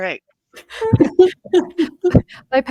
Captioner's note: participants laughing